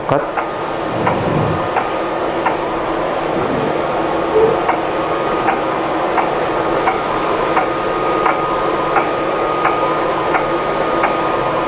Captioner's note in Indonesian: suara mesin printer